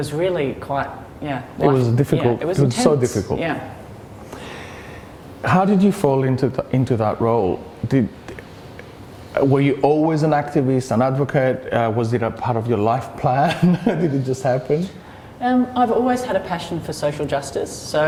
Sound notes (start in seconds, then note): 13.4 giggles